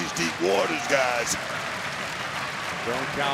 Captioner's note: crowd clap and cheer